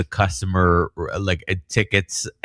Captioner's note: uh